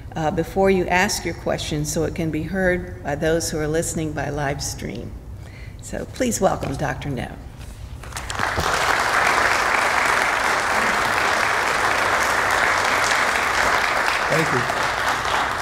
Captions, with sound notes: before you ask your question so it can be heard by those who are listening by live stream. So, please welcome Dr. Noe. (audience applauding) Thank you.